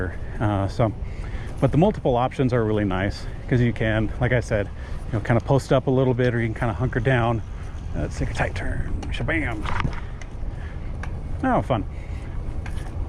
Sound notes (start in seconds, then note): 10.0 air whooshing